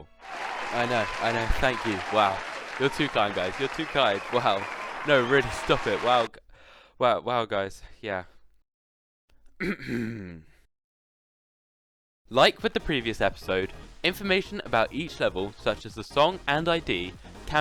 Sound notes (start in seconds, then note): 0.1 applause; 9.5 clears throat